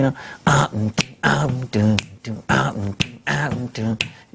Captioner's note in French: bourdonne